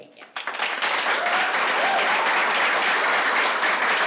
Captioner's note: applause